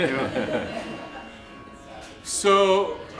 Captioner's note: laughter